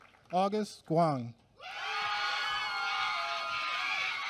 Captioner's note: applause